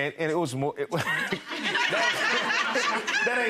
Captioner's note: audience laughing; laughing